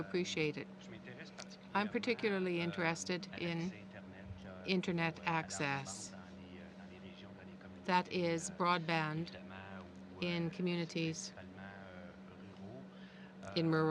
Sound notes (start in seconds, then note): 3.6 speaking French